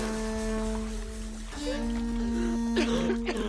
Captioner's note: coughing